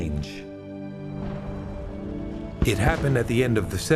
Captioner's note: cannon fire